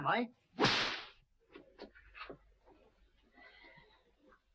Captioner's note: belt slapping